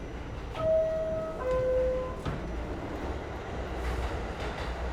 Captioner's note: subway dings